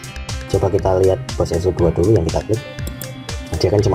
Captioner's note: click